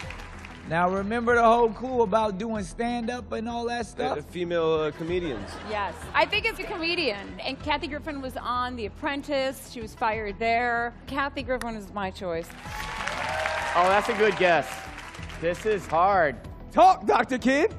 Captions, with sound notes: Now, remember the whole clue about doing stand-up and all that stuff? Yeah, the female, uh, comedians. Yes. I think it's a comedian. And Kathy Griffin was on "The Apprentice." She was fired there. Kathy Griffin is my choice. [applause] Oh, that's a good guess. This is hard. Talk, Dr. Ken.